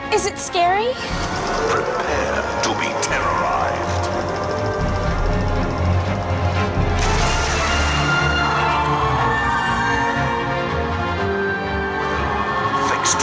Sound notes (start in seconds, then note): 4.7 ominous music; 7.3 ride whooshing; 9.3 riders screaming